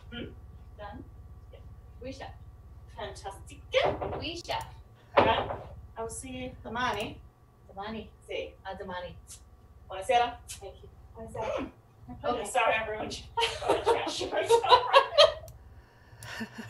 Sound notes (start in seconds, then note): 2.2 woman speaking in foreign language; 13.3 laughing